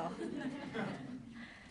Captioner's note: laughter